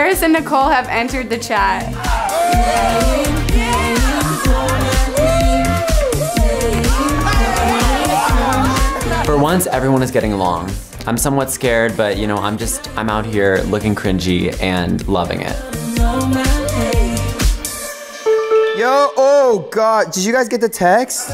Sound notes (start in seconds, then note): 16.9 happy pop music; 18.2 notification ringing